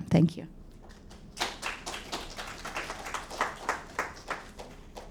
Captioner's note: audience applauding